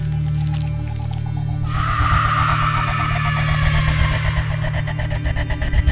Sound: screans

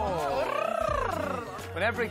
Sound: tongue trill

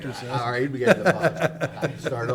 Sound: laughing

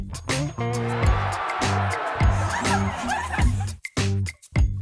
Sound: crowd cheers

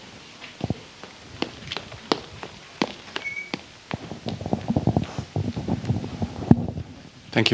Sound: walking

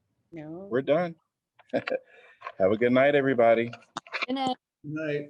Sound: laughter

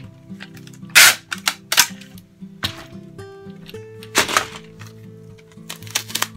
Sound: calm music; paper rustling

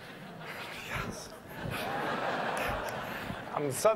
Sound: laughter

